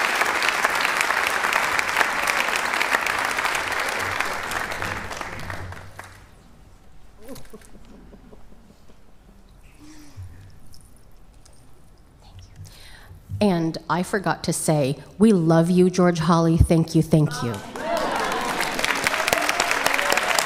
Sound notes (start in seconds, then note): 2.5 applause